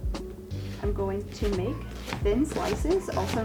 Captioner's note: knife chops